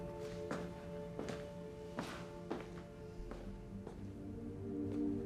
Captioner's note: footsteps tapping